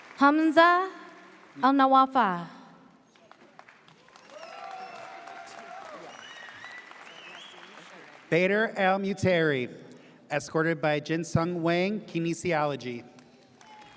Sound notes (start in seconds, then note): 0.0 audience cheers; 4.0 audience cheers